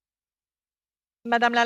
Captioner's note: speaking French